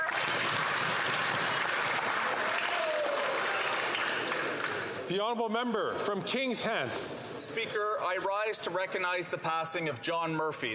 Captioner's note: some Applause